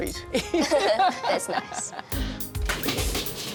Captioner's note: laughs